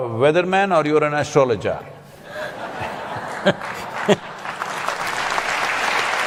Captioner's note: laughter/Applause